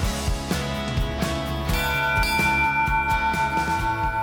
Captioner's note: bell ringing